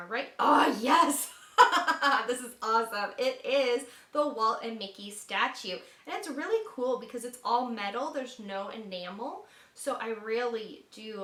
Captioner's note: laughter